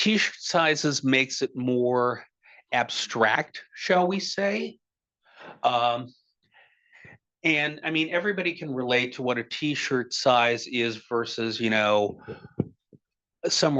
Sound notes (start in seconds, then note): none